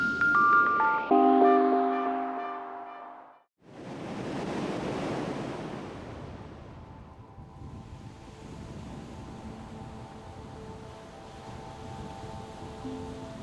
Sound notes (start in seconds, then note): 0.0 bright music; 5.0 wind whistling; 10.8 light music